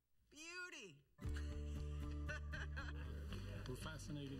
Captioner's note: chuckles